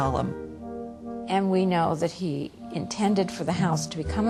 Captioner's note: voiceover